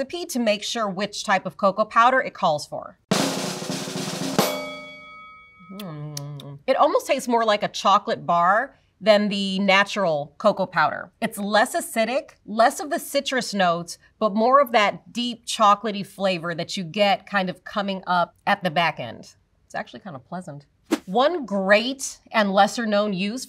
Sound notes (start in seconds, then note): 3.1 drum roll; 4.4 bell dings; 5.7 smacks lips